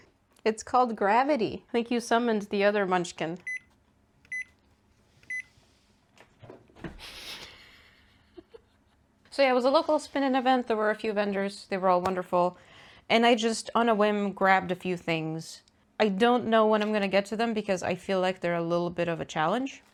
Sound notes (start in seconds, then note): 4.3 microwavey countdown beeps and laughing